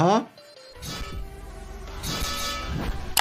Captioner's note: blade clanging